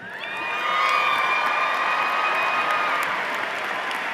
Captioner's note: cheers and applause